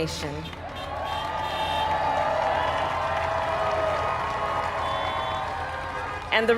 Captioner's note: applaud